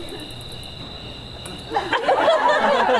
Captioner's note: kiss